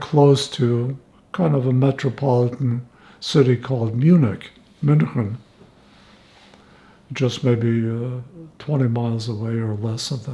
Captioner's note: german